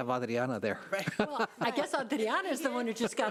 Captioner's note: chuckling